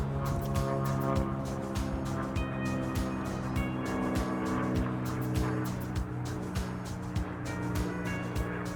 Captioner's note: airplane noise